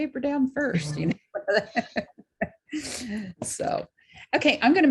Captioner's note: laughs